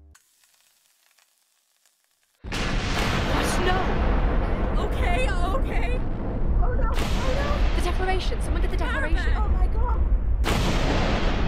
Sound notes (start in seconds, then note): 0.1 TNT hisses; 2.8 explosions